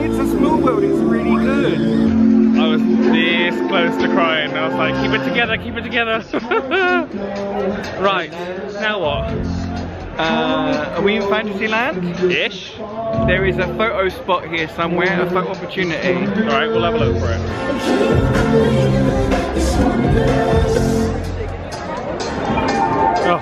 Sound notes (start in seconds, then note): 6.2 laughs